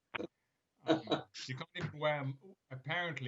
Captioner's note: laughing